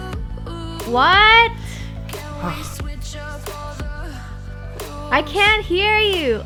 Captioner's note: sigh